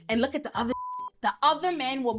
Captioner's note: beep